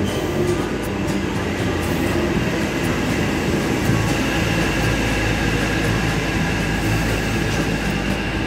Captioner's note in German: Zug fährt in den Bahnhof ein